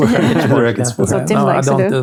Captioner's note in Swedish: skrattar